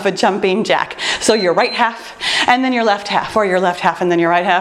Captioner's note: timer beeps